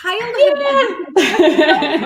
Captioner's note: laughs